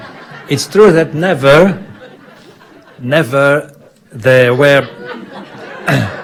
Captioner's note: audience laughing; clears throat